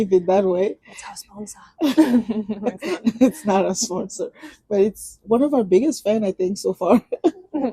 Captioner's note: laughs